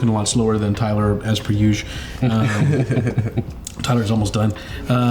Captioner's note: laughs